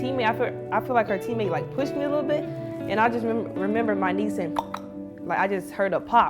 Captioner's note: clicking sound